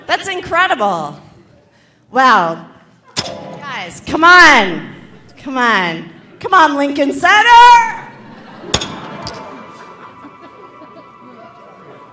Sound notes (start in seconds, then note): 8.0 audience laughing